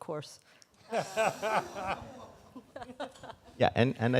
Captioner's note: both laugh